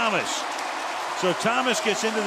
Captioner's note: cheering